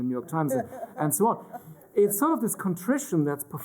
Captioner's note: laughter